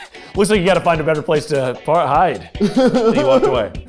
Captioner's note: laughing